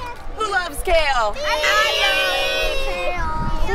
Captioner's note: students clamoring